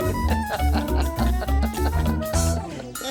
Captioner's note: laughs